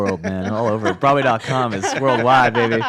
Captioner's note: laughs